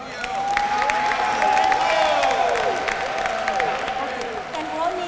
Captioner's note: applause